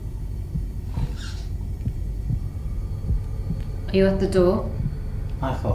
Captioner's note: squeaking noise